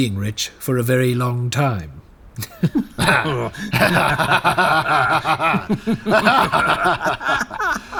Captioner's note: laughing awkwardly